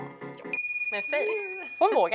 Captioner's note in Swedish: Ding